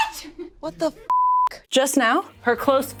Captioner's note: beep